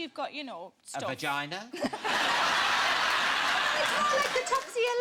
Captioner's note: audience laughing